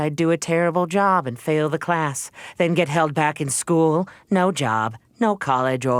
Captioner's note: none